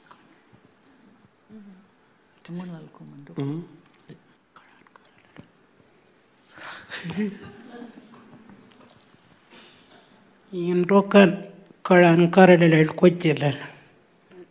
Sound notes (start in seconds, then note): 6.6 laughing; 10.6 speaking Anmatyerr